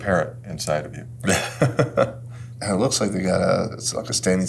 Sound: laughs

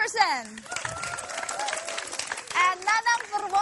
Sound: applause

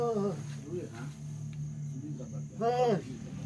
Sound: moaning

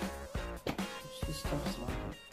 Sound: slap

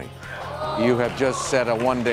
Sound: audience gasps

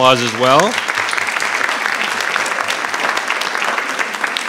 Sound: audience applauding

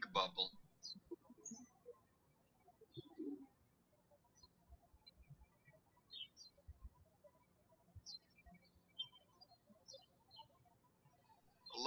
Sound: birds chirping

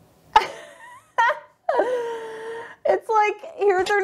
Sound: laughs

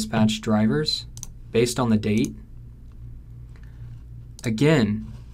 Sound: computer mouse clicking

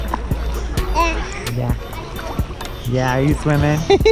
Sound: babbles

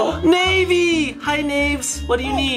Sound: gasps

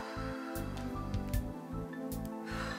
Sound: sighs

